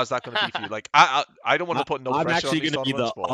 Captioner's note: laughs